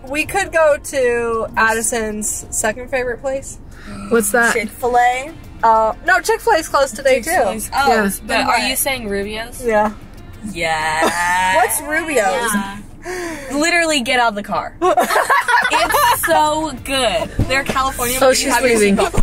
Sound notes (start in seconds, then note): 14.8 girls laugh